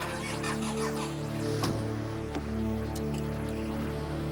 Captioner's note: engine revving